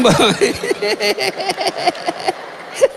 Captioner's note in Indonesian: tertawa